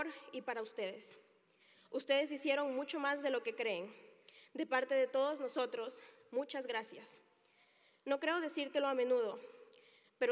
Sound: speaking Spanish

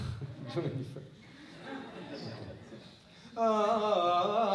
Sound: laughter

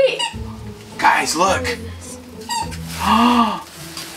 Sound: gasps

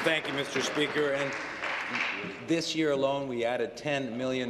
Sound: applause

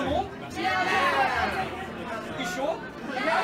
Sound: crowd

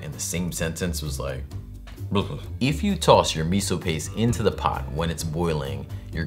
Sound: ew sound

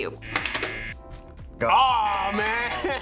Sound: buzzer rings; laughs

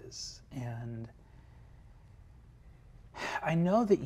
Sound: sighs

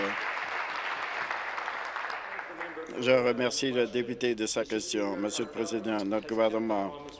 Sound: applause

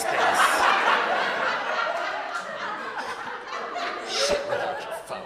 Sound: audience laughing

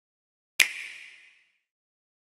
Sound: click

